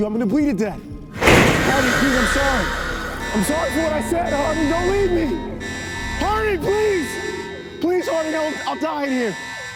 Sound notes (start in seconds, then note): 1.2 door powers open; 3.3 alarm blaring